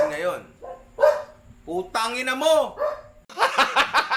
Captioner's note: dog barks